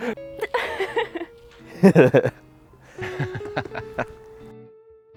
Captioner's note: laughs